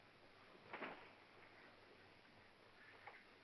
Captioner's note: wings fluttering